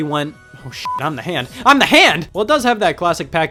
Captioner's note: beep